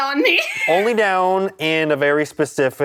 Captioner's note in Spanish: risas